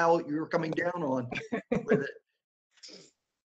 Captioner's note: laughter